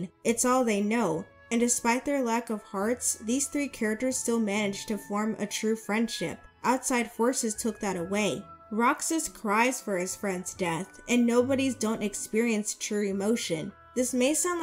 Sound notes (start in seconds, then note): none